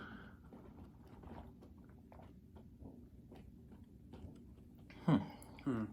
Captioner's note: drinking sounds